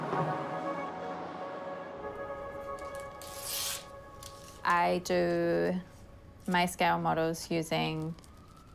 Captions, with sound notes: (PAPER TEARS) I do my scale models using paper-mache.